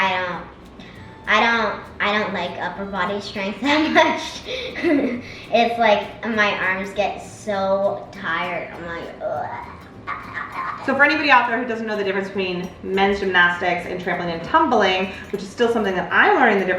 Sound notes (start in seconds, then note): 3.7 laughs; 9.2 groans